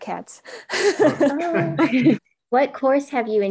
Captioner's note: laughs